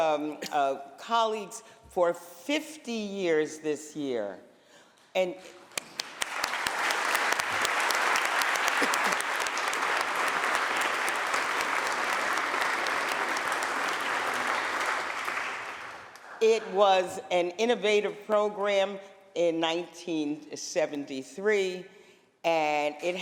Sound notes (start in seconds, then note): 5.1 applause